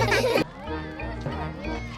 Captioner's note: laughter; children exclaiming playfully